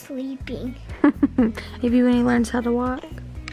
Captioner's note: laughing